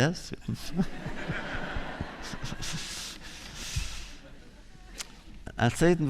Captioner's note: laughter